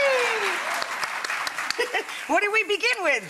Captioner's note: audience applauds; Rachael claps; Rachael giggles